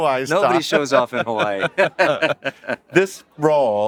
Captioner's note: both laugh